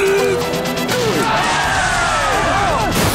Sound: cheering

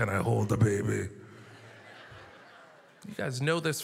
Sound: audience laughter

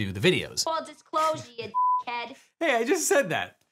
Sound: beeps

